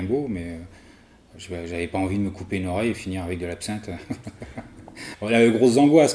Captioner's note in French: rires